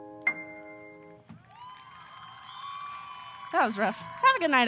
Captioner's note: audience applause